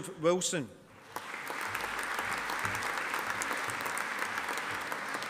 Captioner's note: audience applauding